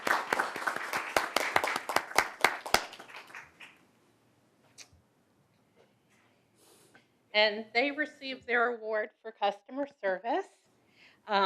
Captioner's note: applause